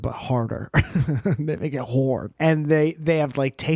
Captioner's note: giggle